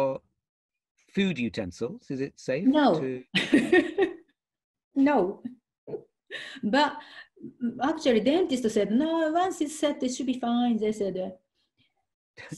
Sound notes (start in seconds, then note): 3.6 laughing